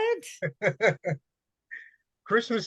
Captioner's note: laughing